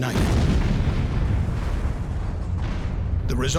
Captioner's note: sound of explosion